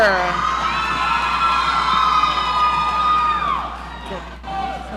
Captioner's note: audience cheering